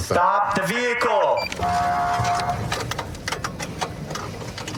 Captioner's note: horn blaring